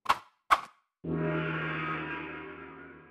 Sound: gong

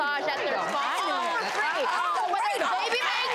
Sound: audience applauds

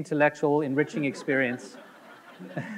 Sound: audience laughing; laughs

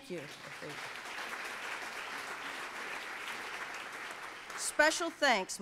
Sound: audience applauds

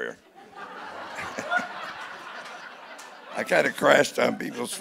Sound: audience laughing

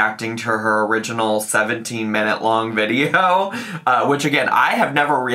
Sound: chuckles

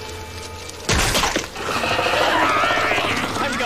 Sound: crushing sound; screaming

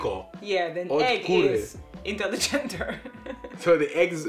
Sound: laughs

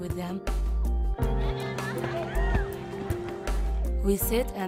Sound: sounds of Frisbee game

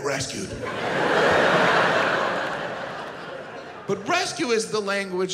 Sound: audience laughs

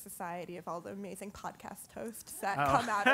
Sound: laugh

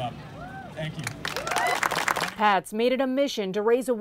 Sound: applause

